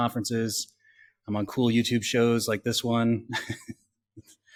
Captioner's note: laughs